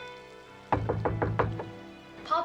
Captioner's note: knocking